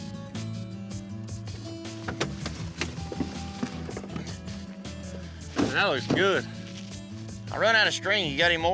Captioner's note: clanging, creaking sound